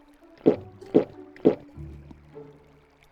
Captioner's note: glug glug glug